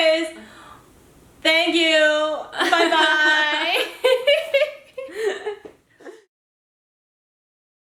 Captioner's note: laughter